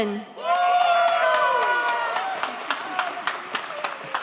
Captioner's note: audience cheers